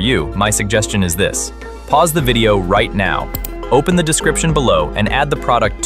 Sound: mouse clicking

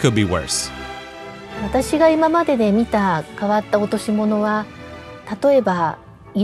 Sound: speaking foreign language

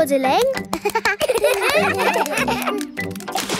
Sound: children laugh

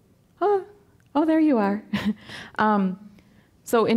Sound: chuckling

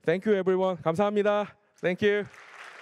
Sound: korean; applause

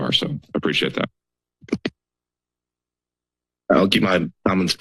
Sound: silence

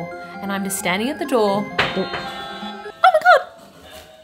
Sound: doorbell rings

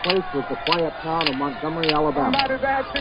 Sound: camera clicking

